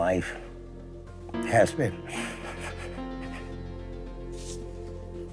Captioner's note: sniffling